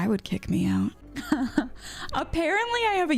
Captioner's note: laughs